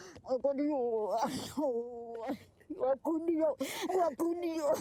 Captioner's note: speaks foreign language